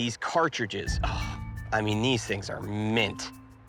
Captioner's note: sighs